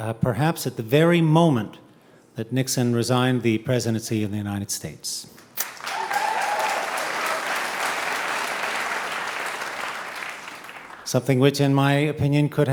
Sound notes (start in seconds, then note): 5.6 audience cheering